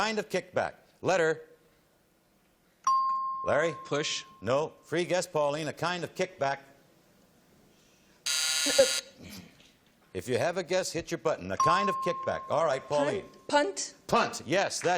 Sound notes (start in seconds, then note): 8.3 buzzing